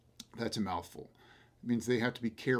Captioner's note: smacks lips